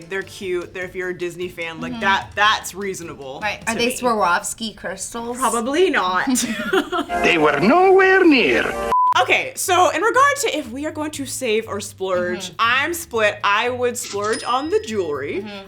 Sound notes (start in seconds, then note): 6.2 hosts laugh; 8.8 beep